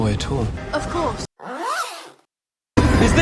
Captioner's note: pants being unzipped